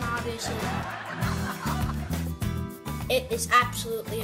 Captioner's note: laughter